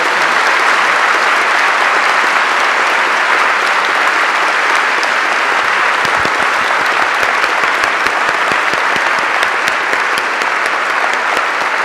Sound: applause

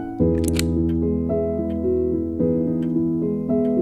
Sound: gun cocking

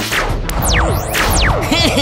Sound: alert

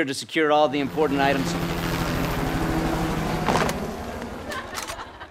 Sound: helicopter whirring

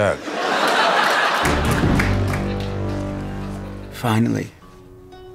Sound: audience laughing

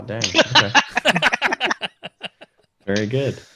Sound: laughter

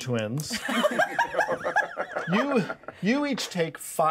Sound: laughs

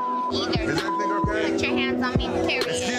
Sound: beep

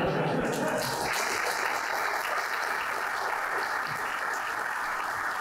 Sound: laughter; applause

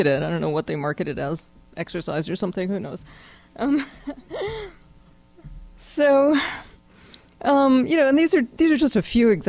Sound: laughs

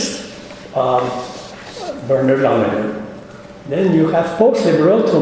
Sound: speaking faintly

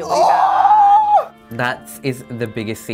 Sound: screaming

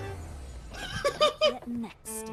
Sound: laughing

